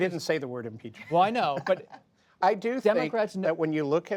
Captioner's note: laughter